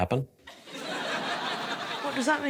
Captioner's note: laughter